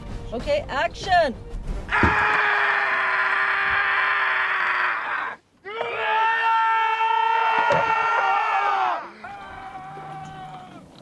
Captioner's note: screaming